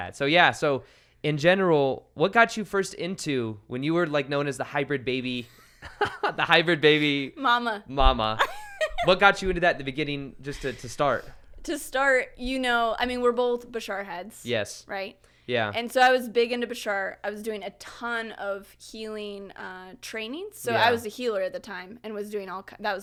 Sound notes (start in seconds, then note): 5.5 both laughing; 8.4 laughs